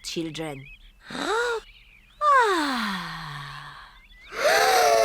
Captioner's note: breathes deeply; all breathe deeply